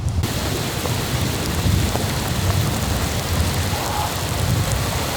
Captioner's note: rain pounding